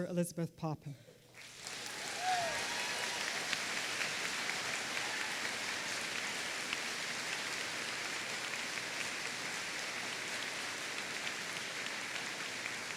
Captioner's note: applause